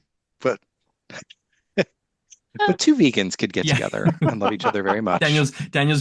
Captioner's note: laughs